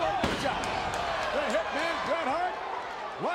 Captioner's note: audience cheers